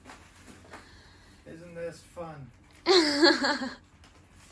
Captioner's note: laughs